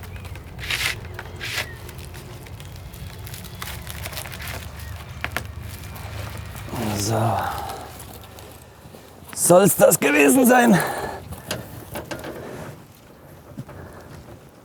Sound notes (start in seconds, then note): 6.6 groaning